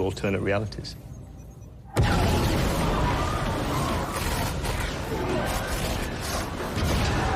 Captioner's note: distorted warbling